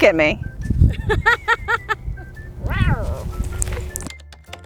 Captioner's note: laughs